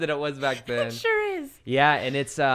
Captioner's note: both laughing